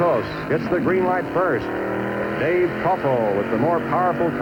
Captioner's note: engines roaring